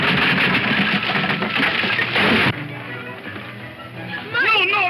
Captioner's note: thuds